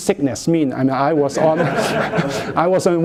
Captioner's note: laughter